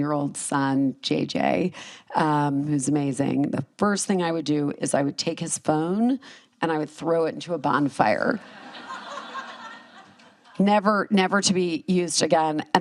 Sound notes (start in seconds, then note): 8.4 laughter